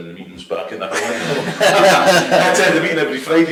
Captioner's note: all laugh